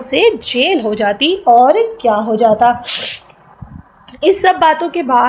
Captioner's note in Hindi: नाक से की जाने वाली आवाज़